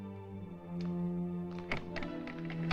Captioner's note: door Opens